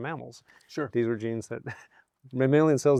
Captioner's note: chuckles